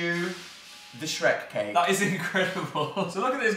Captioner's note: chuckles